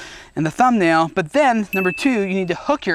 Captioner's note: dinging